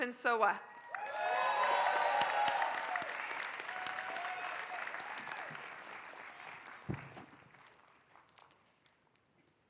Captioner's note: applause